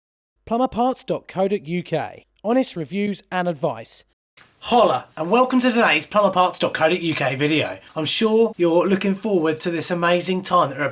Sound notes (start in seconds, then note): 0.8 voiceover